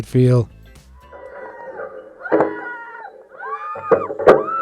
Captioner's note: riders screaming